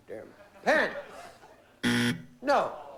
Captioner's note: buzzer